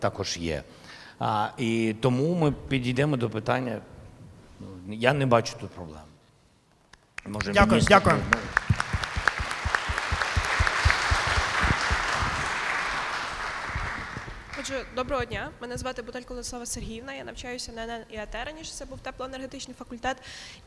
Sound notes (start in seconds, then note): 7.1 applause